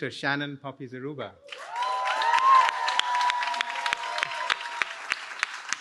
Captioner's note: cheering